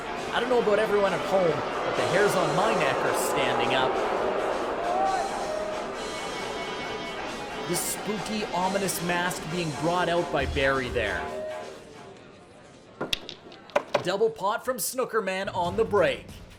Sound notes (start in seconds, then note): 4.4 audience boos; 4.4 upbeat music